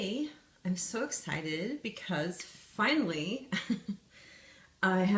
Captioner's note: laughs